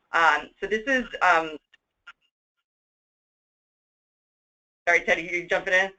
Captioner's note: audio gap